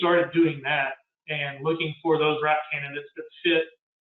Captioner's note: murmurs